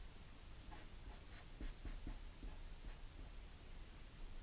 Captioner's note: pen scratching